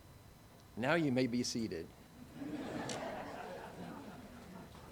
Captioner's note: audience chuckles